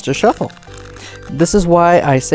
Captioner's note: cards riffling